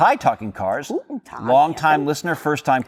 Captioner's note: speaking german